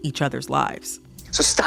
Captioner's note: soundbite of tv show, "beef"